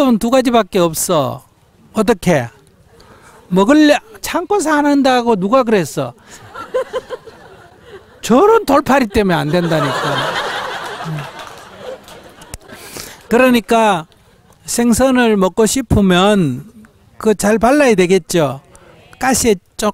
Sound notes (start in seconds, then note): 11.0 audience Laughter